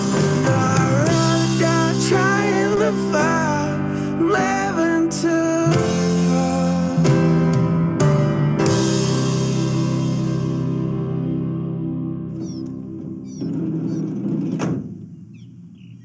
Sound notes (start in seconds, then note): 10.3 birds chirping; 10.3 sliding door closed